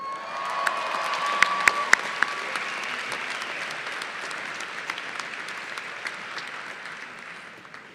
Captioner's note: applause